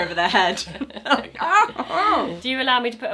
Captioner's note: laughing